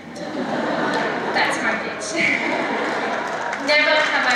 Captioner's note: laughter; applause